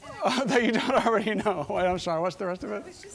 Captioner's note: laughing